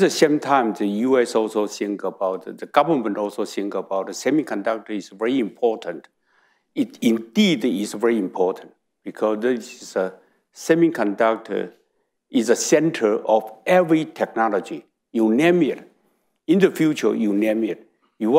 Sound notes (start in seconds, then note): none